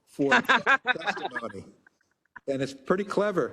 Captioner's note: laugh